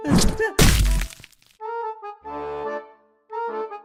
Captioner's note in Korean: 퍽!!!!